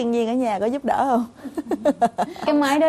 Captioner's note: laughing